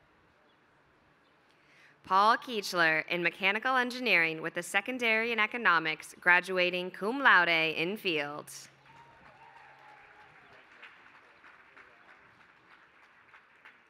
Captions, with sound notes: Paul Kuechler in mechanical engineering with the secondary in economics graduating cum laude in field. [APPLAUSE]